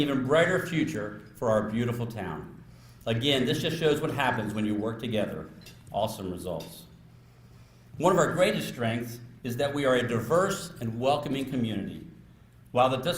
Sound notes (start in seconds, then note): none